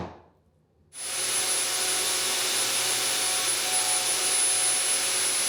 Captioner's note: hammer thudding; electric saw whirring